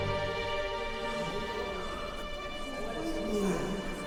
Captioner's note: gasps